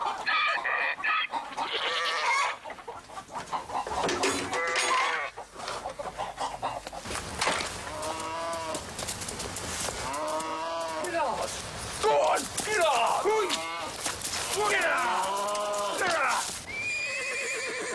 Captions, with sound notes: (dishes crashing) (cow calling) - Get on, go on, get on! Go get on, ya!